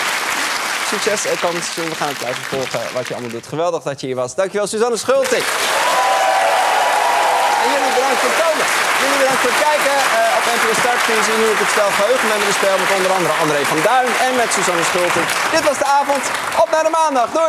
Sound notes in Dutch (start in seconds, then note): 0.0 applaus; 6.9 applaus